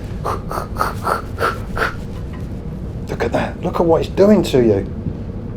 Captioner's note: whooshing noises